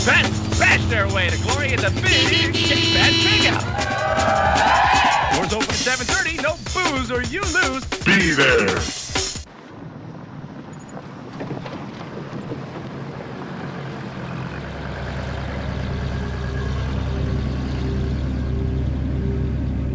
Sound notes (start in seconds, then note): 4.0 crowd cheering; 18.2 dark ambient music